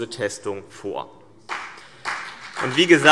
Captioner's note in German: Vereinzelter Beifall CDU und BÜNDNIS 90/DIE GRÜNEN